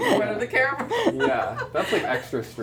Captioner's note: laughing